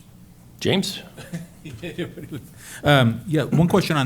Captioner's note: laughs